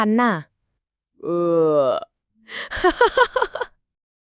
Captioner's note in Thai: เสียงเรอ